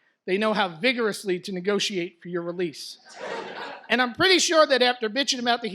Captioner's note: audience laughs